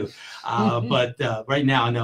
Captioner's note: laughter